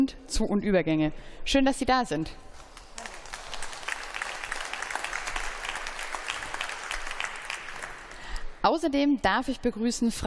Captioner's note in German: Beifall